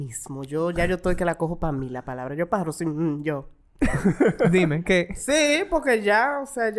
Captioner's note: laughs